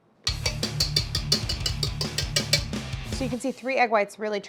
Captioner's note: whisk clanging